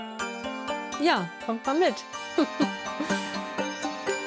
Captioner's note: sparkling music; she laughs